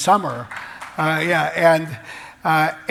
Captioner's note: applause